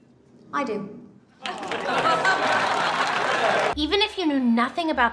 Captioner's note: crowd laughs and applauds